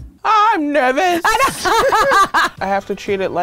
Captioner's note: laughing